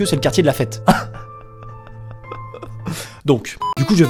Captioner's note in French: pleurs